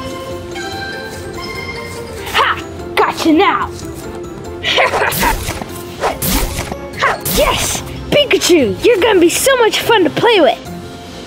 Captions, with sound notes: Gotcha now! (maniacal laughing) (zapping) Yes, Pikachu, you're gonna be so much fun to play with!